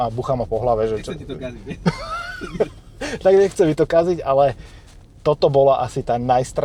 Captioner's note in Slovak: smiech